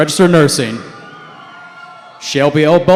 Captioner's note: cheering